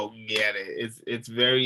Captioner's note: clapping hands